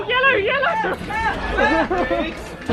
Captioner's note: screaming